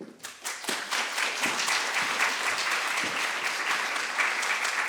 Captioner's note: audience applauding